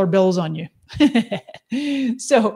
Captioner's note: laughs